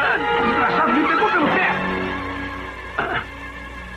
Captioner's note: yelps